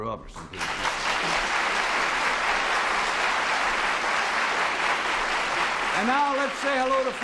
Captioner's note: applause